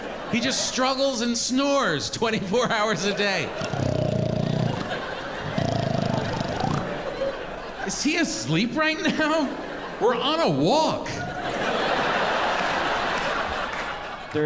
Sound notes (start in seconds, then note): 3.7 imitates dog snoring; 11.6 audience laughing